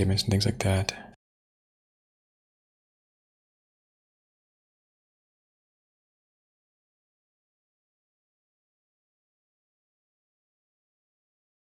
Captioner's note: blank Audio